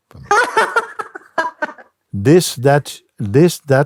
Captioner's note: laughs